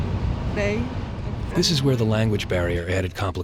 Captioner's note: voiceover